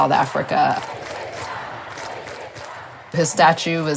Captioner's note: people cheering